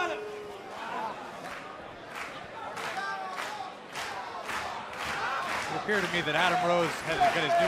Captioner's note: crowd chatter